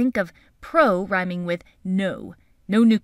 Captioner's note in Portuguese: não em inglês